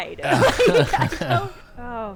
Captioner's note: group laughing